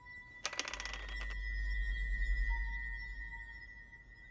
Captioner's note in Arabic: قعقعة